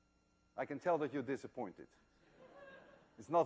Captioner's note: laughter